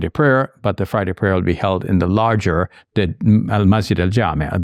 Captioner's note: speaks in Arabic